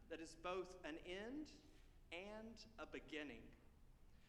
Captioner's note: none